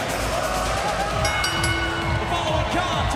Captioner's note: bell ringing